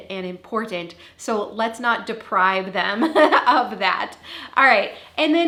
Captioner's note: laughing